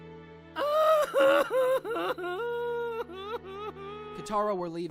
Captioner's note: cries